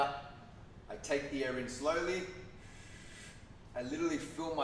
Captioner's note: inhales